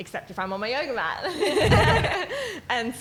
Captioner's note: laughing